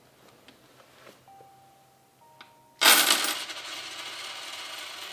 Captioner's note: coins rattle